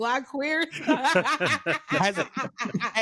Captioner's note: laughing